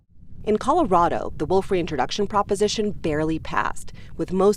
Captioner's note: voice-over